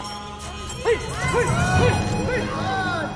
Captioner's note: shouting